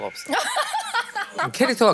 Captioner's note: laughing